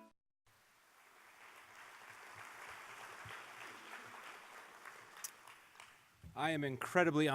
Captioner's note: applause